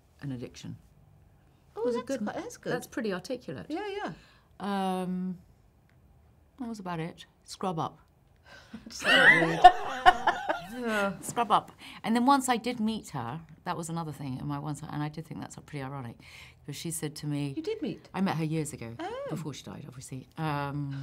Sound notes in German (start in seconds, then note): 9.0 lachen